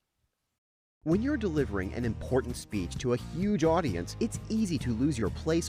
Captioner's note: voiceover